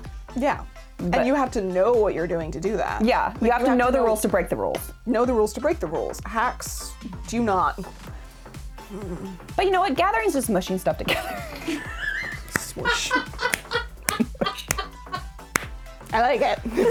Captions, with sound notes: Yeah, and you have to know what you're doing to do that. Yeah, you have to know the rules to break the rules. Know the rules to break the rules. Hacks do not. But you know what? Gathering's just mushy stuff together. (laughing) Smush. I like it.